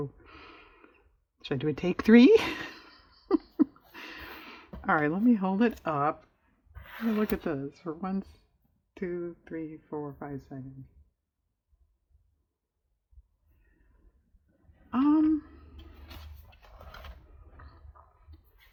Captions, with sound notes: should i do a take three (laughs)? all right let me hold it up look at this for one... two... three... four... five... seconds